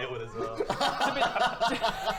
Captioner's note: laughs